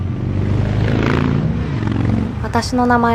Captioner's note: street noise